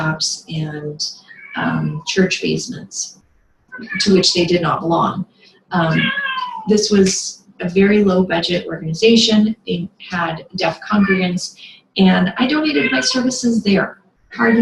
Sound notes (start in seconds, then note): 5.9 meows in the background